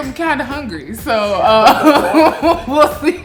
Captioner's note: laughing